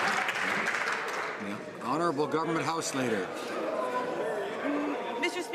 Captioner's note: some Applause